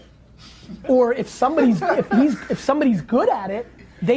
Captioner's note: laughs